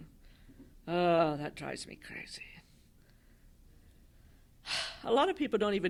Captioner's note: sigh